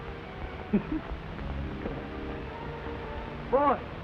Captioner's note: Bob chuckles